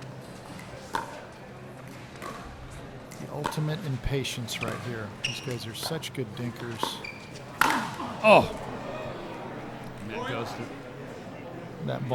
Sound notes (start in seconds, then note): 7.7 grunting